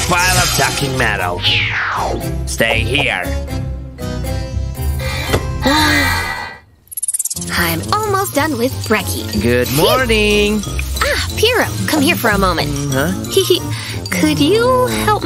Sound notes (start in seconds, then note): 5.6 sigh